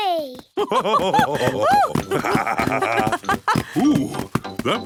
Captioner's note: both laugh